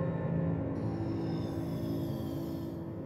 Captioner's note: air hisses